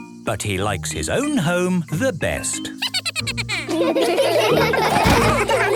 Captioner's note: Steven giggles; all laughing